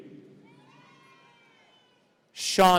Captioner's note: audience cheering